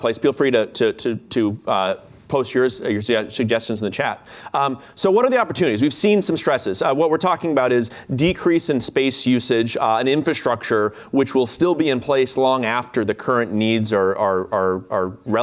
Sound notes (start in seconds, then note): none